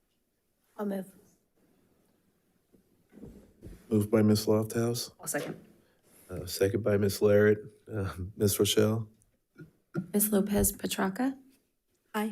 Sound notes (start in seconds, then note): none